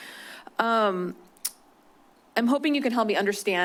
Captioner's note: clicks tongue